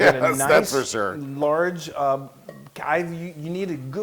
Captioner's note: laugh